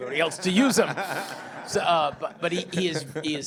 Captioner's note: laughter